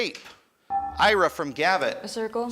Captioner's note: buzzer chimes